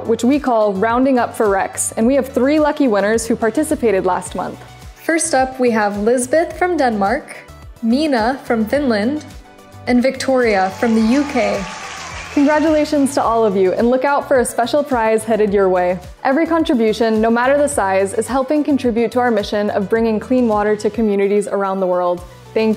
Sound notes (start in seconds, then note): 10.6 crowd applauds and cheers